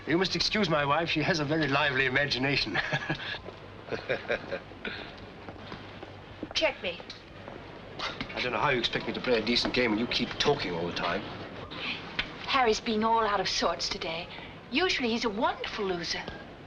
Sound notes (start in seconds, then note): 3.8 nervous Laughter; 3.9 mocking laughter